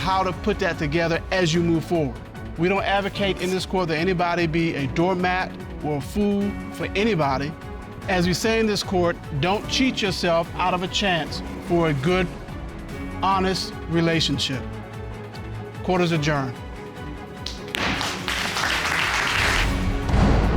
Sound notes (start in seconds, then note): 16.3 gavel bangs; 19.0 audience applauding